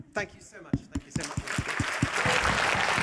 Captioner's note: cheering